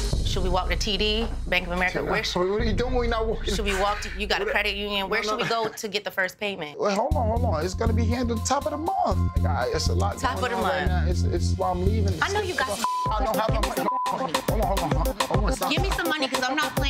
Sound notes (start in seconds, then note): 12.4 beep